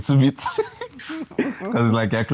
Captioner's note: laughs